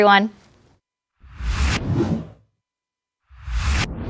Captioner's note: swoosh